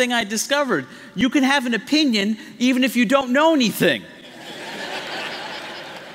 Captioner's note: laughter